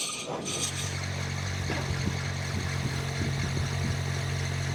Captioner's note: machine rumbling